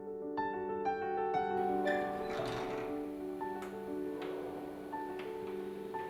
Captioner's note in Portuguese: Som da maçaneta e porta abrindo